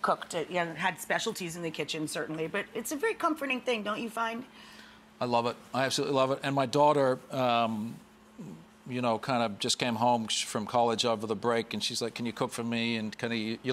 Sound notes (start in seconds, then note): none